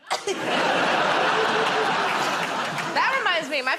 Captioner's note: laughter